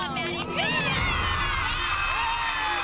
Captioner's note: cheers and applause